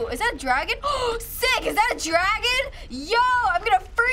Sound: gasps

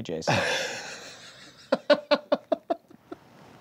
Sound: laughing

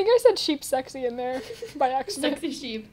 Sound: giggles

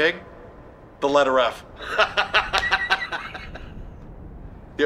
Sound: laughs

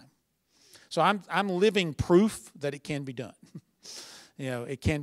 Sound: chuckle

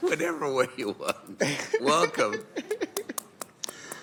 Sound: laughter

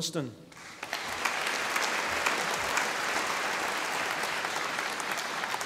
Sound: audience applauding

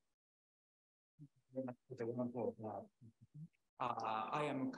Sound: very quiet speaking

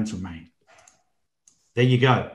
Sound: computer mouse clicking

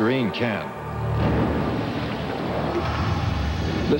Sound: splashing

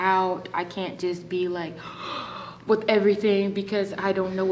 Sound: gasps

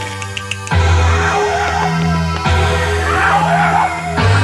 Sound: intense music; people yelling

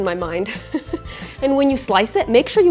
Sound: chuckles

